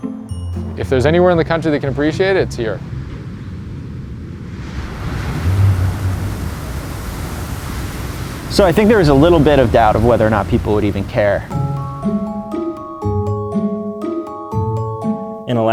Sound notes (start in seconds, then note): 4.6 wind howling; 11.4 playful suspenseful music